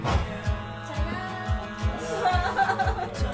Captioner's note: speaks Korean